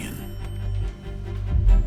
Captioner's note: phone rang shortly